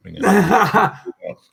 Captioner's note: laughing